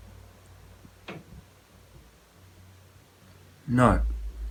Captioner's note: object knocking